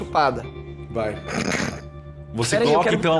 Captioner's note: giggles